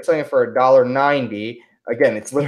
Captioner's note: none